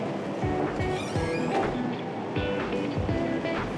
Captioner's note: trunk door creaks